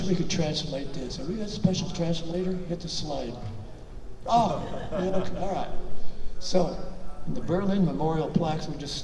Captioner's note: audience laughter